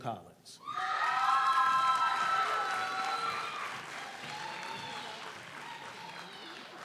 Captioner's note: audience cheers; audience applauds